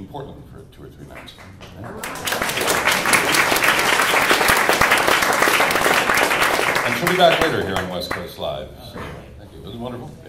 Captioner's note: applause